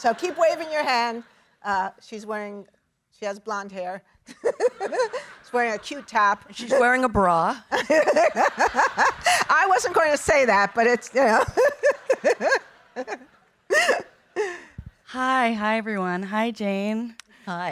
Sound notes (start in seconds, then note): 7.7 audience laughing; 11.0 laughing